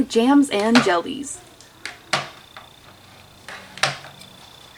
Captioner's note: glass clinks